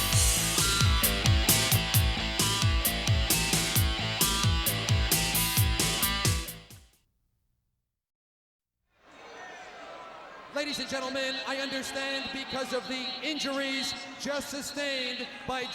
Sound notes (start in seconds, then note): 0.0 upbeat music; 9.0 spectators cheering